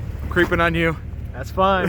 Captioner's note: laughing